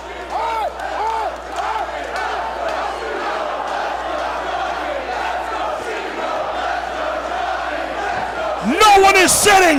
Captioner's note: applause